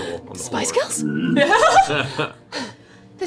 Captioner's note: gasps